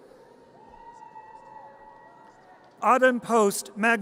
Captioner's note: audience cheers